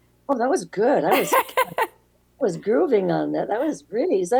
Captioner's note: laughs